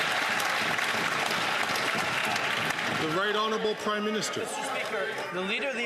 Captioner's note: some Applause